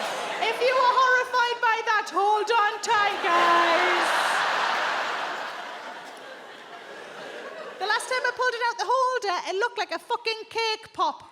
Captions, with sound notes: If you are horrified by that, hold on tight, guys. [audience laughs] The last time I pulled it out, the holder, it looked like a fucking cake pop.